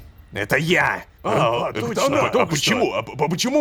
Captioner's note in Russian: Удивление толпы